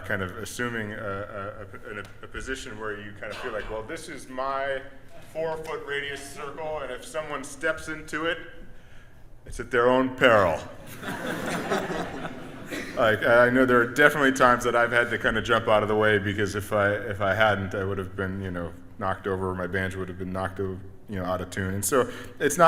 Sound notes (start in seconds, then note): 10.8 audience laughs